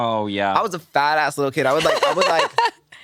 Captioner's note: laughs